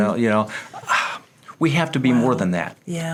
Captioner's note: sighs